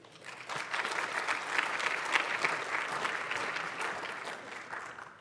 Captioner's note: applause